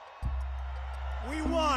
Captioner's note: crowd cheering